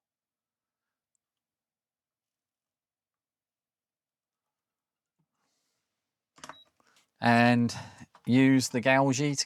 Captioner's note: silence